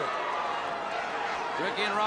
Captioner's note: crowd cheering